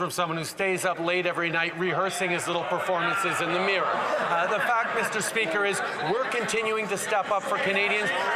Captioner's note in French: voix de l'interprète